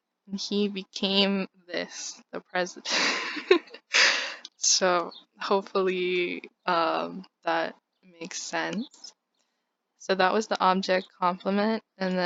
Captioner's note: laugh